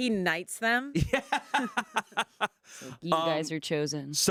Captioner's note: laughs